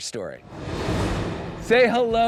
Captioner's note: graphics whooshing